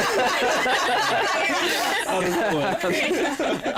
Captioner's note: laughter